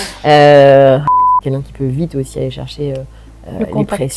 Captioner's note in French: bip